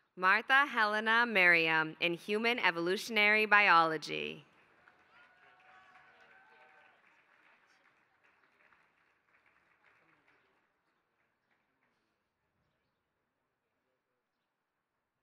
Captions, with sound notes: Martha Helena Merriam in human evolutionary biology. [APPLAUSE]